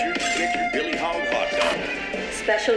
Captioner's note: tv ads playing